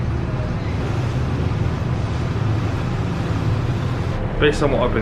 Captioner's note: tender boat engines running